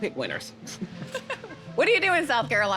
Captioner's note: laughing